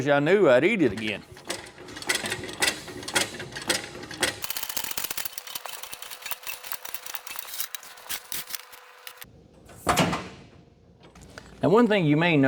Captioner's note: crunching